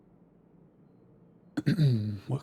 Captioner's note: clears throat